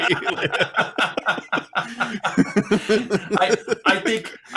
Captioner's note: laughing